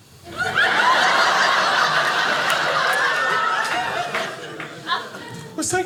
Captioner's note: audience laughing